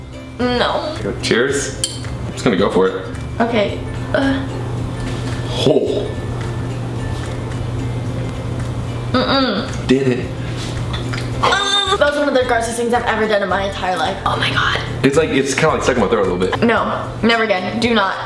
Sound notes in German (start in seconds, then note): 9.0 mmm